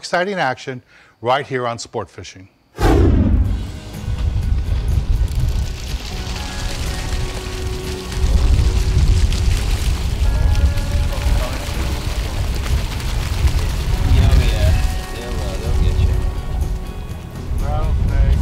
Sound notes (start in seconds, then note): 2.7 whooshing sound; 3.4 light music playing; 8.3 water splashing